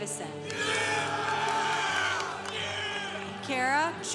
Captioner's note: congregation applauding